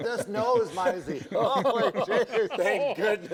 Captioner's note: laughter